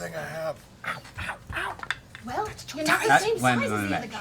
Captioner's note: whispering